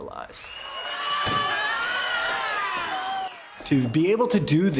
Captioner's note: shouting